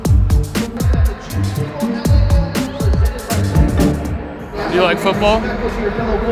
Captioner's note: announcer chattering